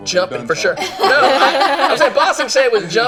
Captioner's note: laughing